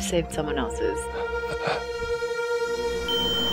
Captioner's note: Morales gasping